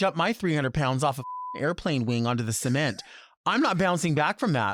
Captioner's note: beep